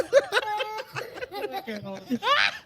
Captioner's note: laughing